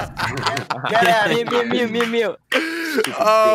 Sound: laughs

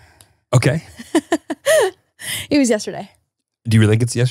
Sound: laughs

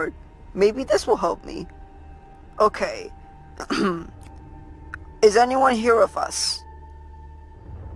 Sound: ahem

